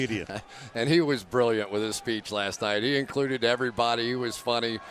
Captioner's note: laughs